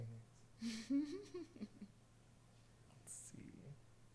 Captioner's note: laughs